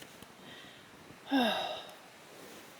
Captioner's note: sigh